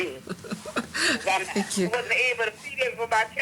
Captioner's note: laughs